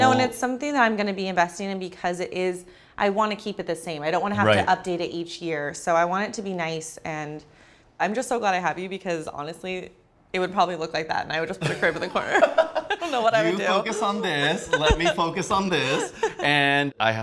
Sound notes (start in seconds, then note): 11.6 laughs